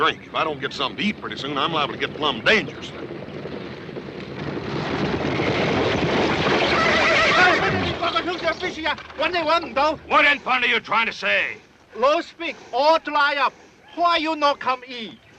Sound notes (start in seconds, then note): 3.2 approaching hoofbeats; 6.4 horses neighing; 7.4 Hop Sing speaking Chinese